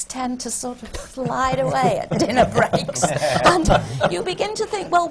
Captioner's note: laughter from the panel